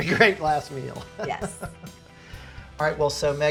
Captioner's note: laughs